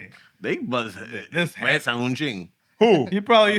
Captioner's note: non-english Speech